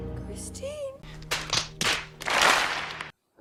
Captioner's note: facepalm sounds